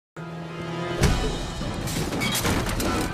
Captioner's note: dramatic music; kick thudding; glass shattering